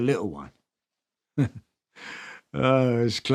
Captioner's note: chuckles